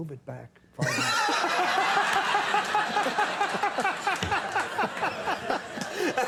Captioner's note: Conan and audience laughing